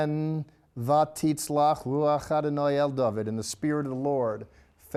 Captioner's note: speaking in Hebrew